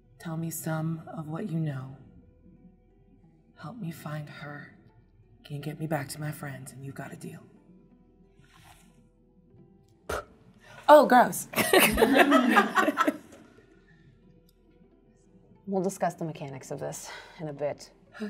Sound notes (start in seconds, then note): 10.0 spits; 11.6 all chuckle